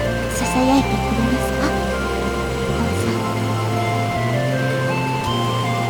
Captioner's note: rain